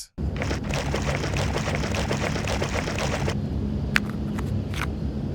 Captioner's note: juice sloshes; cap clicks